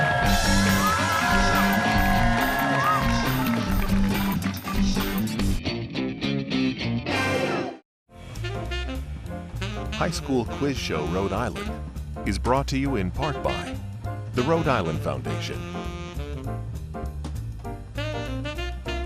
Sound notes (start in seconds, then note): 6.4 cheering and applause